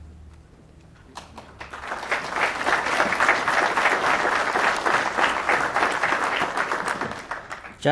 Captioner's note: applause